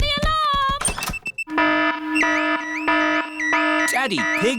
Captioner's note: alarm blaring